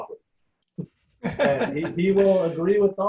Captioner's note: laughing